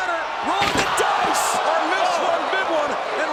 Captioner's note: body thuds